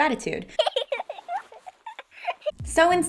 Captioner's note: baby laughter